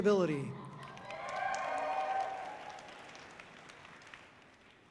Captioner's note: audience cheering loudly